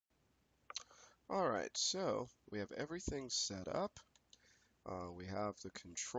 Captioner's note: voiceover